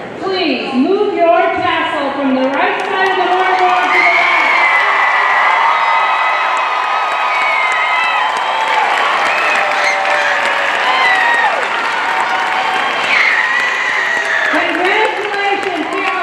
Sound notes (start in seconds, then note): 4.9 audience cheering and applauding